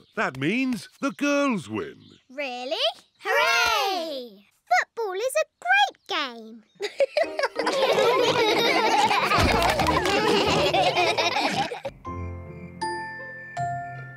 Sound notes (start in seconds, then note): 6.8 all laugh; 6.8 giggles